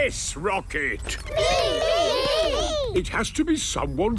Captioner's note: calling out in turn